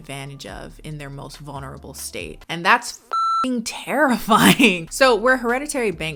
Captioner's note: beep